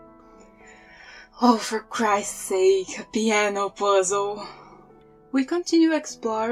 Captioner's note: sigh